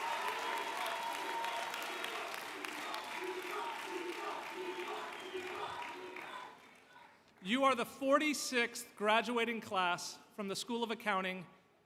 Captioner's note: applause